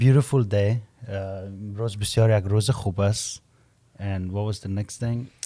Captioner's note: Persian language